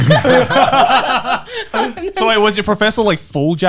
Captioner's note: laughing